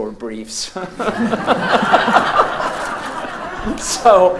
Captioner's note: audience laughs